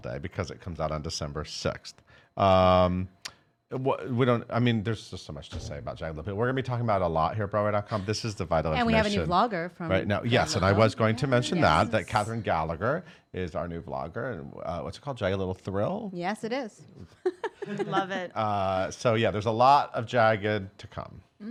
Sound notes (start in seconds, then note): 17.2 laughs